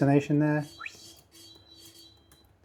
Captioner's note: whistling